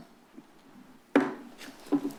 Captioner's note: gavel tap